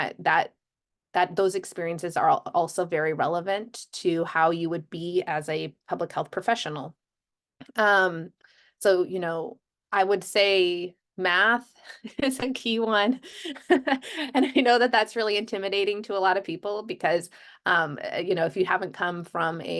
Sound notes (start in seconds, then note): 13.2 laughter